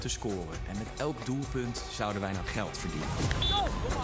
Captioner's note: whistle